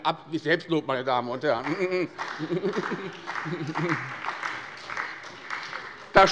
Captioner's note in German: Beifall bei der SPD